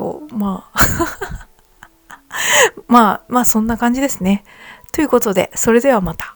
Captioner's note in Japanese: 笑い